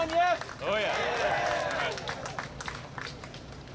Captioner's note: applause